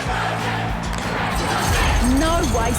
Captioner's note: crowd chanting